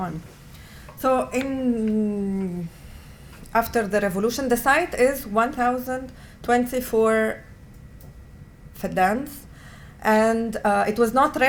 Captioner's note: non-english